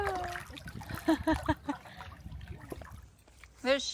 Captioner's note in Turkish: kahkaha